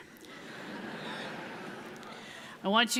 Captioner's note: audience laughs